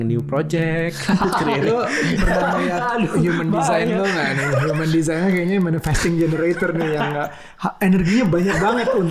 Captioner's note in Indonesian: tertawa